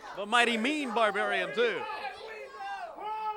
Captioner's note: crowd cheering